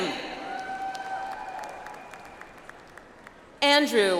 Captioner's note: audience applauds